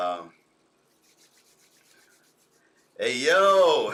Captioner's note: rubbing hands